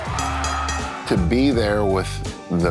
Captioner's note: bell rings